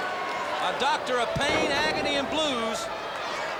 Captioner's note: crowd cheering